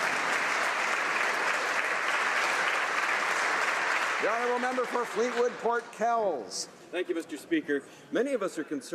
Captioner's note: applause